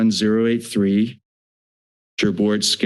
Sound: silence

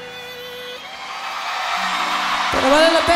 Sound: aplausos

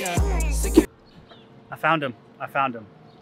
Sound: air whooshing

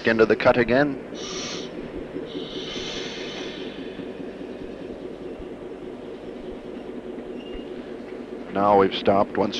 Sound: sound of the train idling

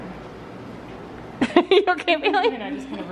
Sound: laughs

